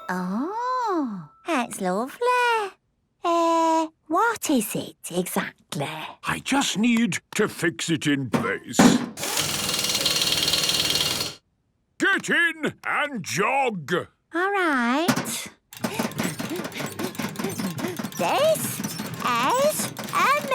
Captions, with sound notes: Ooh! It's lovely. Er... What is it exactly? - I just need to fix it in place. - (drilling) - Get in and jog! - Alright. (panting) This... Is...